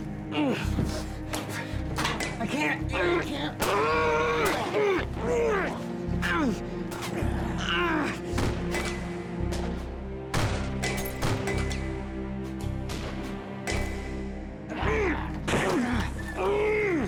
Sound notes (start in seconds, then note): 2.0 groaning; 6.4 gunfire continues; 16.8 emmett groaning